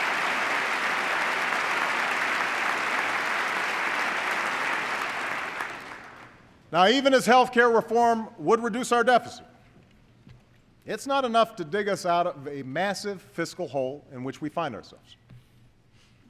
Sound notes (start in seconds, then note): 4.3 applause